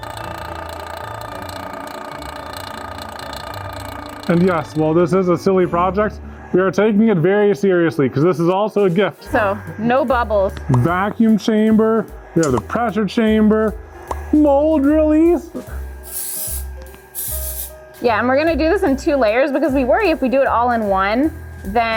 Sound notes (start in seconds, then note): 0.0 machine whirring; 15.5 aerosol spraying